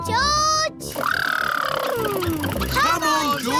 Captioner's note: makes sputtering noises